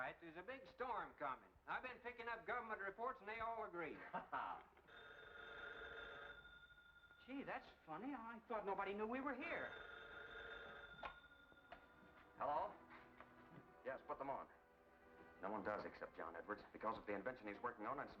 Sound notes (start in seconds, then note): 3.9 Albright laughs; 5.5 phone ringing